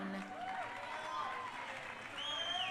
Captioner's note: crowd cheering